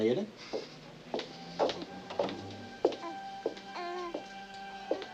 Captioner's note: footsteps approaching